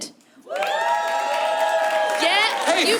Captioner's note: applause